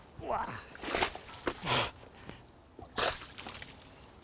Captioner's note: water splashing